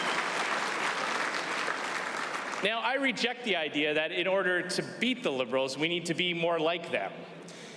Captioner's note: applause